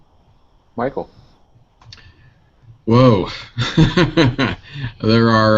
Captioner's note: laughter